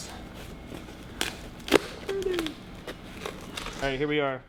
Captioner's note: cardboard tearing